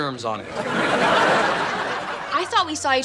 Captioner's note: laughs